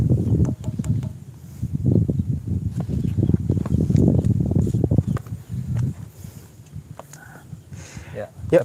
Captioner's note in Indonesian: Suara Angin